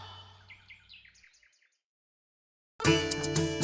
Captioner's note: bird song